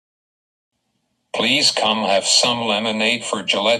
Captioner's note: voiceover